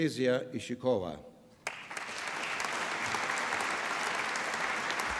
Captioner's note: applause